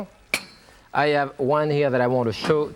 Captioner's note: lid clinks